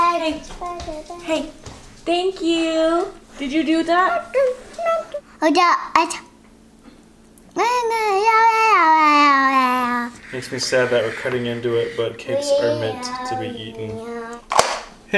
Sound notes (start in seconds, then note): 5.4 murmuring